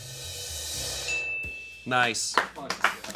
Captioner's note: drum roll hisses; bell chimes; crew applauds